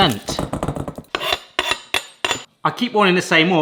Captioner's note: chopping board rattles; knife scraping